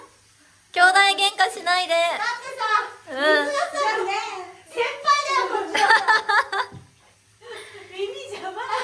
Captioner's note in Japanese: 笑い